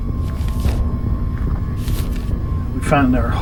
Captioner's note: pages flipping